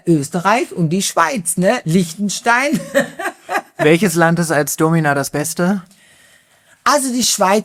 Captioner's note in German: gelächter